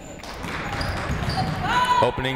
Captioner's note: crowd clapping